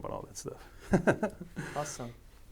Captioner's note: laughing